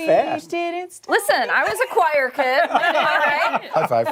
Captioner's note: laughter